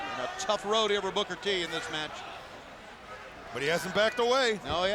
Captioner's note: none